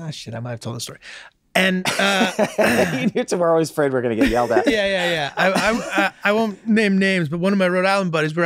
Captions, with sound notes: ah shit, I might have told this story. And. - (laughs) We're always afraid we're gonna get yelled at. - Yeah, yeah, yeah. I won't name names, but one of my Rhode Island buddies,